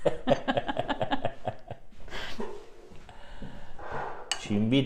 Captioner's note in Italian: Risate